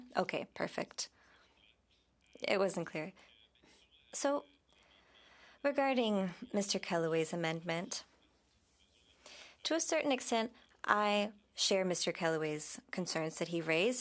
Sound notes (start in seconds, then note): 1.9 speaking French